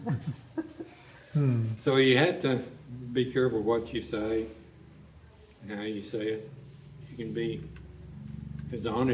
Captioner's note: laughter